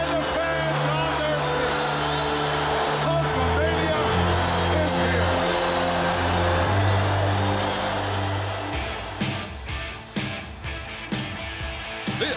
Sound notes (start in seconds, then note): 5.5 crowd cheering; 8.7 upbeat rock music